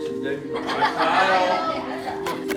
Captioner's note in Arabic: ضحك